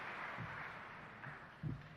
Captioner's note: applause